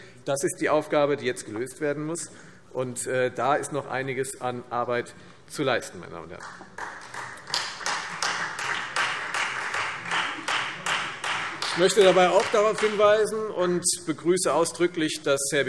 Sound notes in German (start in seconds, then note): 6.4 Beifall